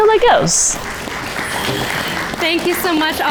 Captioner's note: audience applauding